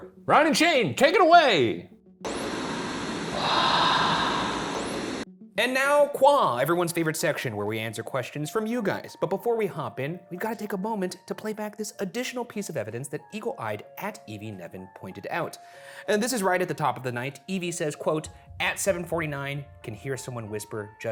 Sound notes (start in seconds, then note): 2.2 static hissing; 4.0 voiceover